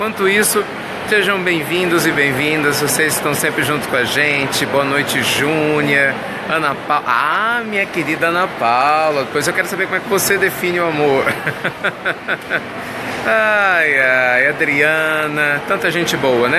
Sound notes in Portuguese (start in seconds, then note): 11.2 risos